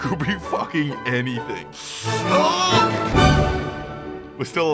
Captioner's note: inhales Sharply through gritted Teeth